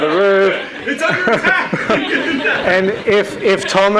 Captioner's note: everyone laughs